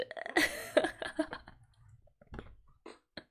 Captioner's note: laughs